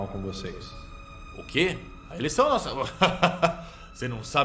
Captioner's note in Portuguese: risadas